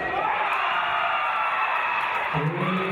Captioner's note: cheering